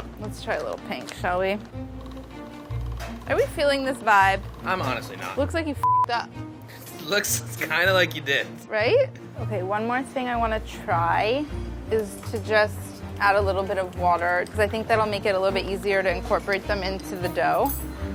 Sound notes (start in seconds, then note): 5.8 beeping